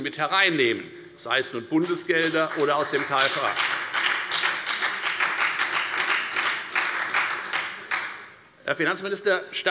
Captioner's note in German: Beifall bei der FDP und bei Abgeordneten der SPD